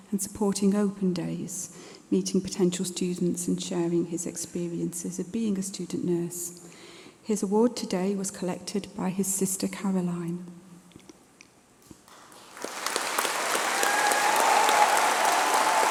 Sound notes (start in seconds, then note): 12.0 applause